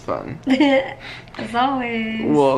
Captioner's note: laughs